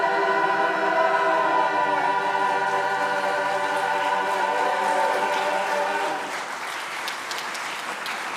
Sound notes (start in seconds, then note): 2.4 audience applauding